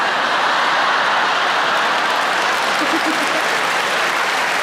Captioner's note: audience laughing; audience clapping